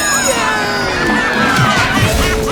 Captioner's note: cheering over stampeding footsteps; thuds